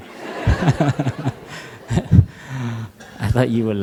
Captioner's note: laughter